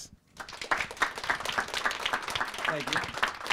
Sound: applause

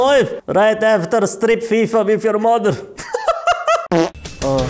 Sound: laughs

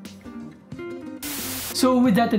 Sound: static sound

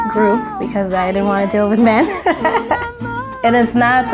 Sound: laughing

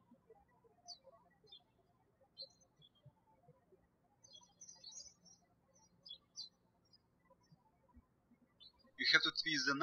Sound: birds chirping

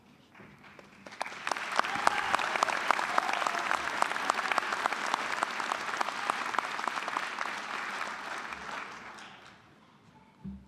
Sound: applause

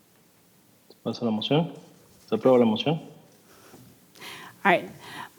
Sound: translator speaking in Spanish

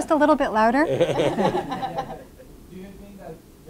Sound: audience laughing

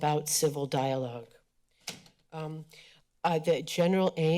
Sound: rustling sounds

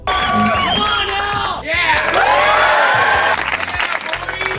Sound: male audience cheers

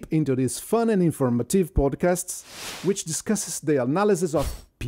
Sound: screen whooshes

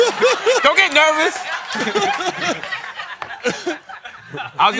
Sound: laughter

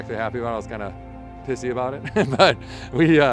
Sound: laughs

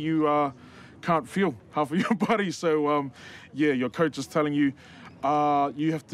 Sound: chuckles

